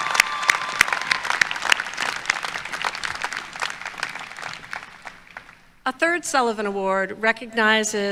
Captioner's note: applause